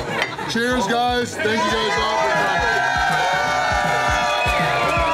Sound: crowd cheering

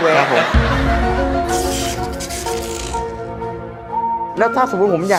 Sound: short circuit sound

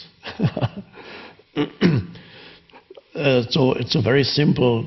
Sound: Eckhart laughing

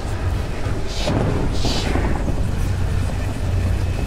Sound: otherworldly voice whispers

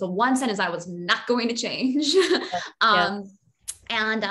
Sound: laughs

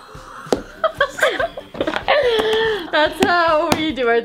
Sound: screaming; laughing

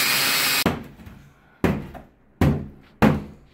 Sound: banging

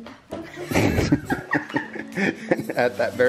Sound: laughing

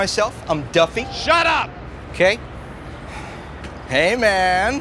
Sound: voiceover; voiceover

